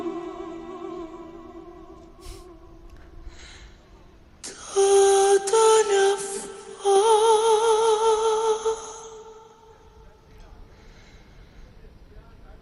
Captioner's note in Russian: фыркает